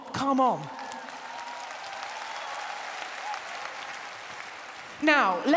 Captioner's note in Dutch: applaus